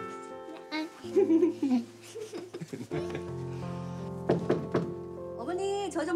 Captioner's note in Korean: 웃음소리; 노크 소리